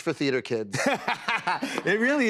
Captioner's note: laughter